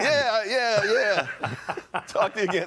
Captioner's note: laughter